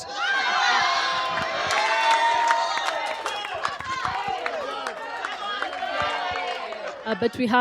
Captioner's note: laughter